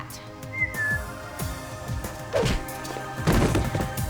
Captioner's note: KC whistles